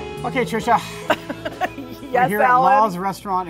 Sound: laughs

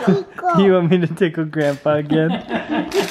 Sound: voiceover

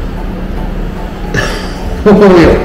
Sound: laughs

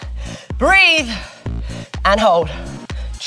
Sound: gasping

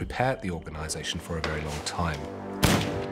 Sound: gunshot

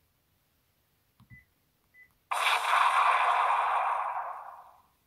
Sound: explosion

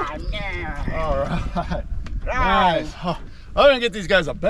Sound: whooping

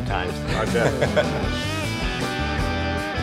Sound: both laugh; upbeat music

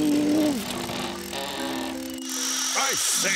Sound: camera winding and whirring

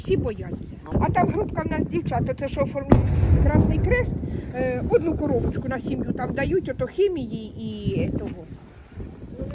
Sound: explosion

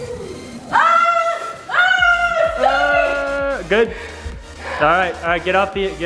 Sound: starts screaming

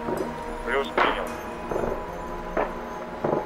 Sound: radio exchange

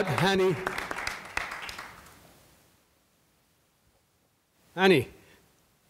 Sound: audience applauding

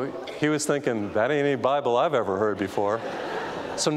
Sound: audience laughing

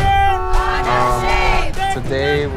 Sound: horn honking

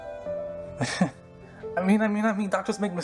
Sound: Bryan sarcastic chuckle

